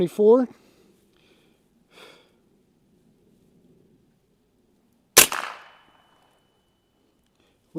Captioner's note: gunshot